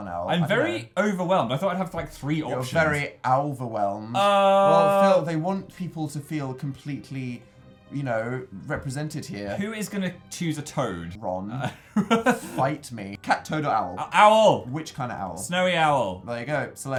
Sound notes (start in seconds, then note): 11.6 chuckles